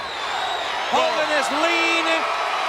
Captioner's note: audience cheers